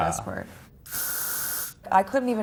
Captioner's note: hairspray spraying